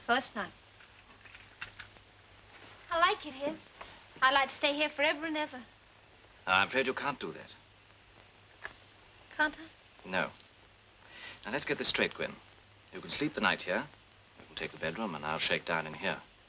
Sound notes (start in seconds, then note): none